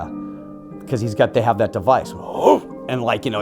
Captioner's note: grunting